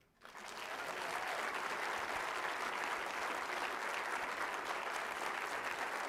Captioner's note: applause